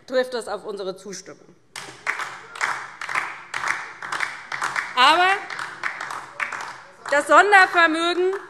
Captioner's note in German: Beifall DIE LINKE